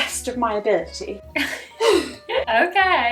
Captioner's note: both laughing